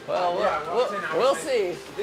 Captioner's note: laughing